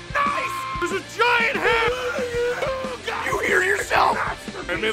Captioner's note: Harry potter screaming; screaming